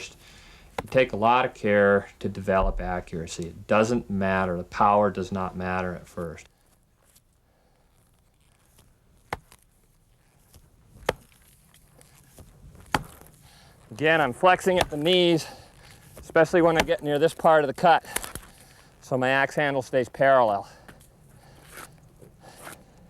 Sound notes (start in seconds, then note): 7.1 chopping sounds